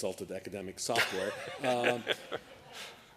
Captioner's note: laughter